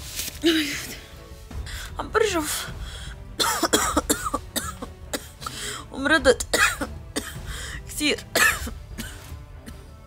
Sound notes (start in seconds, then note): 3.4 coughing